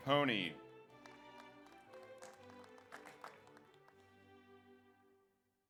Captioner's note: audience applauds